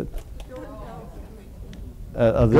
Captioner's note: audience mumbling